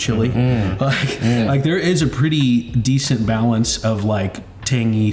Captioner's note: chuckles